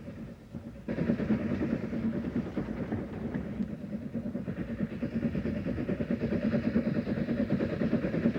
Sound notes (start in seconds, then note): 2.9 train passing